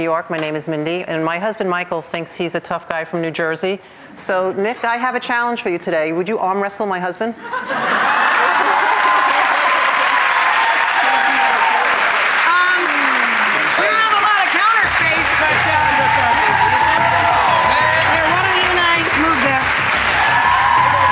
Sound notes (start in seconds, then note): 8.6 audience cheering; 15.4 suspenseful music